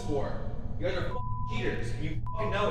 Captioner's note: beep